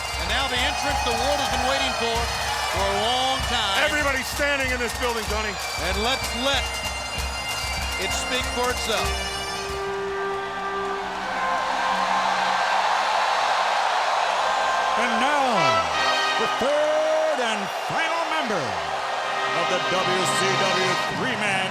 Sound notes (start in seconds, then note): 9.9 audience cheering; 9.9 dramatic music